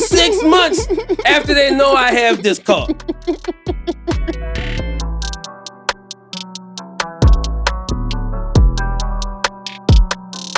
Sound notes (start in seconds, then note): 2.9 laughing; 2.9 upbeat hip hop music